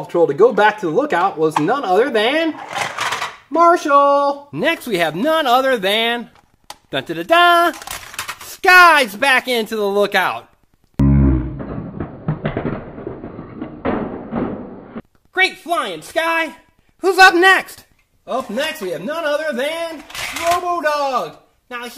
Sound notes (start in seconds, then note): 11.0 crashing; 11.1 distorted speaking